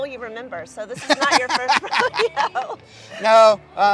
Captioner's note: chuckles